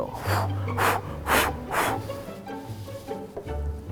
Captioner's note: exaggerated huffing